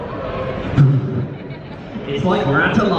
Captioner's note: laughing